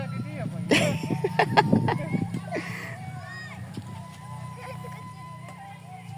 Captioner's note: laughs